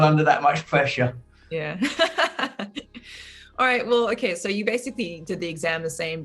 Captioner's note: laughing